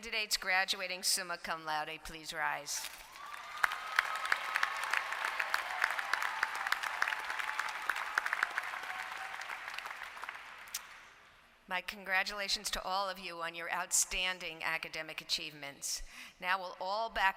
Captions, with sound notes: LAUDE, PLEASE RISE. [APPLAUSE]. ON YOUR OUTSTANDING ACADEMIC ACHIEVEMENTS.